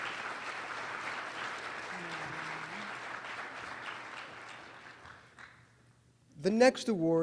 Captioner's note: applause